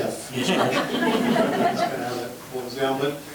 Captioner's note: members laughing